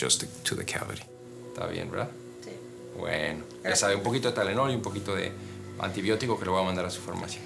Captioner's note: conversing in a foreign language